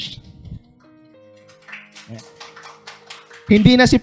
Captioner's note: applause